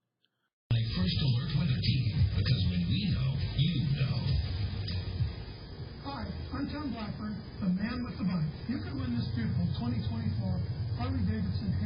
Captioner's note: TV plays in background